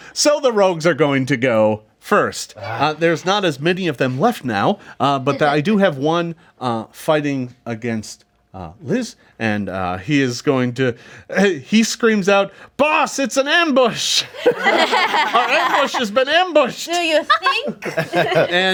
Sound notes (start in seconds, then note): 14.2 group laughs